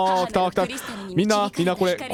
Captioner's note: breath